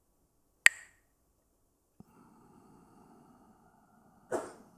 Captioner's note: clacks the sticks